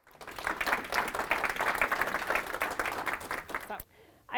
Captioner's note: audience applauding